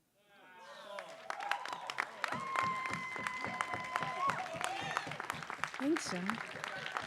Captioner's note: audience cheering and applauding